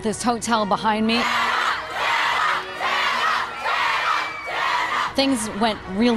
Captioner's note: crowd chants